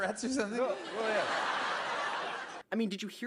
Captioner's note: audience laughter